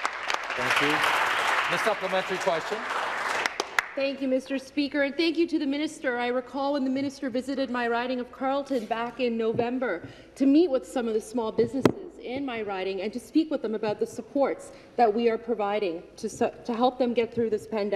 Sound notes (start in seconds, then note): 5.0 some Applause